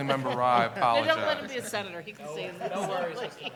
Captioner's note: laughter